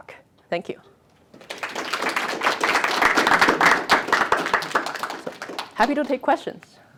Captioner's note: applause